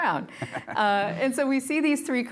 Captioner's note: giggles